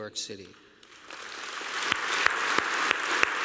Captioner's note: applause